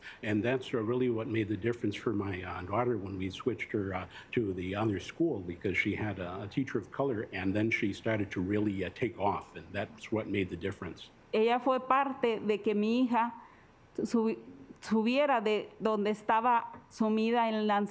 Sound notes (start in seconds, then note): 11.4 speaking Spanish